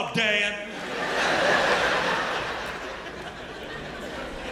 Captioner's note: laughter